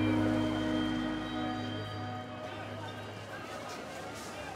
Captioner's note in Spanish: bullicio del lugar